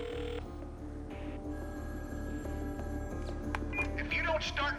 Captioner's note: ring